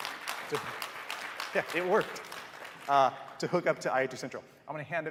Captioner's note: applause